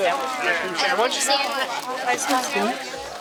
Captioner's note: indistinct chatter